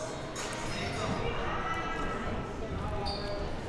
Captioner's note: crowd murmuring